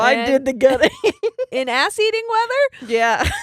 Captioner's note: laughing